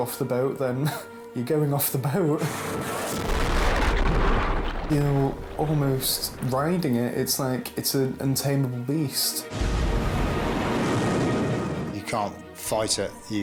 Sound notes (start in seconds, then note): 1.0 laughs; 3.7 water gushes; 3.8 wind whooshing; 3.9 waves crashing; 9.5 water gushes